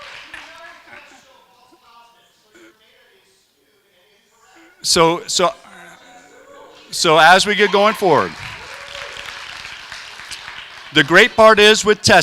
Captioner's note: crowd heckling